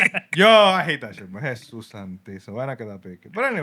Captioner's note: speaking Spanish